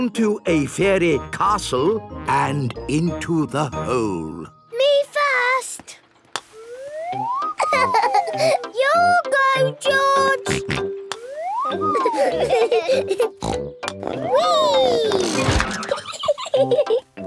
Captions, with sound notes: onto a fairy castle, and into the hole! - Me first! (laughing) Your go, George! (snort, laughing) (snort) Wee!